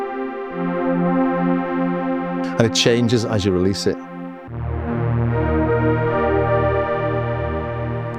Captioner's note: chuckles